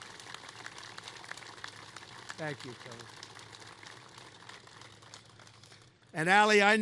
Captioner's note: applause